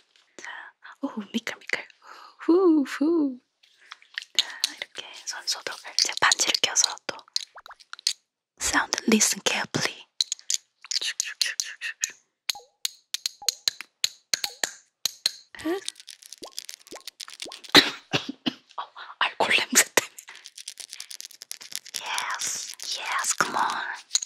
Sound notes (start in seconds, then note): 17.7 coughing